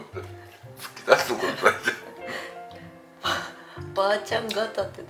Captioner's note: laughs